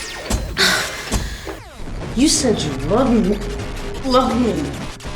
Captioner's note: gasping